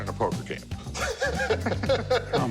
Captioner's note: laughter